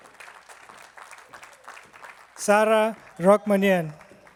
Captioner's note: attendees clapping